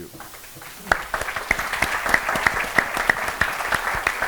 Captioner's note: applause